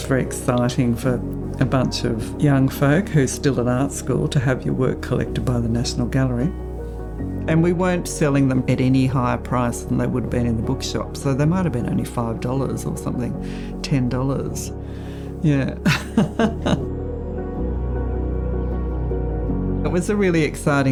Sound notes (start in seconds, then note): 19.0 laughs